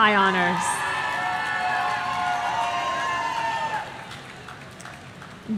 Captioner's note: audience cheering